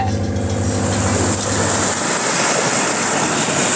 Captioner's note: waves crash